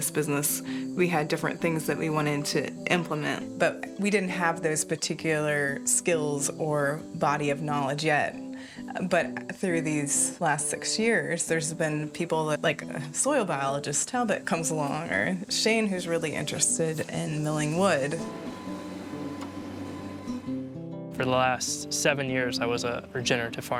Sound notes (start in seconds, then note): 17.0 machinery humming